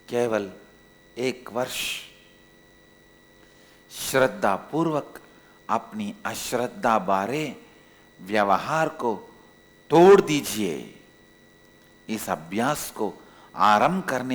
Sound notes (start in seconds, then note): 1.3 hindi